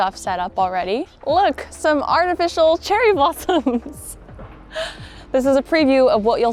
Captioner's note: chuckles